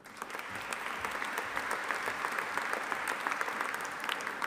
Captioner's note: audience applauding